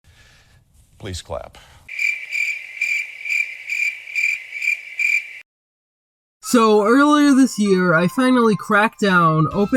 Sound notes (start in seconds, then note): 1.9 crickets sound effect